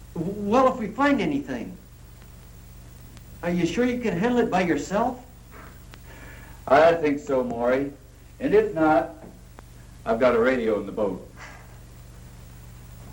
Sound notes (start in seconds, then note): 5.8 laughs